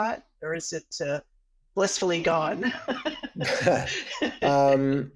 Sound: laughs

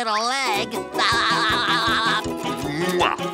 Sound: laughing

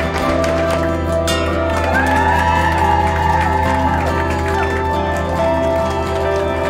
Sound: people cheering; bell ringing; people clapping

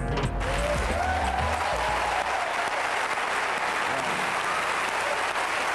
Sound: applause

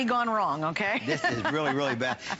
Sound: laughter

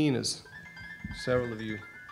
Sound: ringing tone

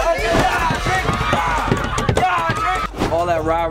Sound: screaming

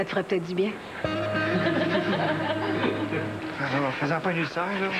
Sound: Rires des étudiants

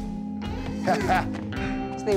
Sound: laughs

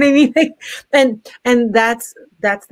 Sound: laughs

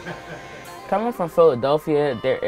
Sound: man laughing

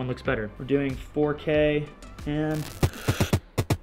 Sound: upbeat drum music; static crackling; inhales deeply

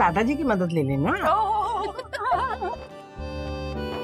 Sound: laughter

